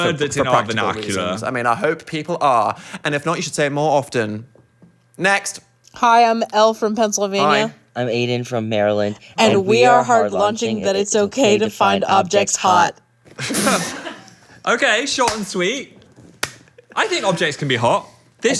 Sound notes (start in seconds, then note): 13.4 group laughing